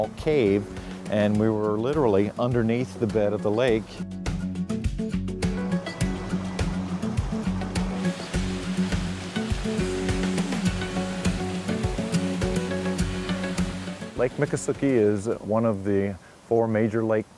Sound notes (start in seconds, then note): 5.6 rushing water